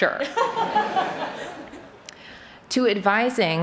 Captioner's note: laughter